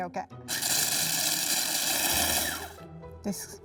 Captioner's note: food processor running